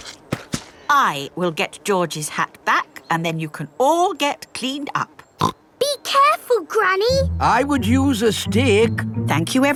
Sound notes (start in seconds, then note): 5.5 snorts